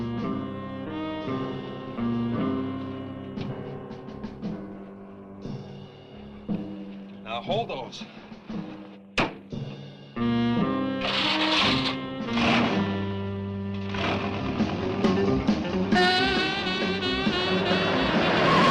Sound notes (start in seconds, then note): 10.9 dramatic music; 11.0 engine cranks; 16.6 suspenseful music